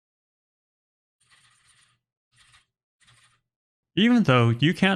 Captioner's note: typing sounds